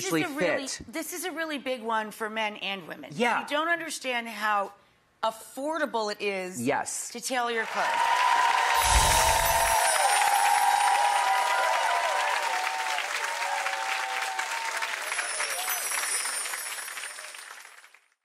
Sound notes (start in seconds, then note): 8.2 audience cheering